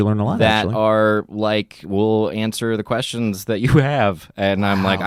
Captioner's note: chuckles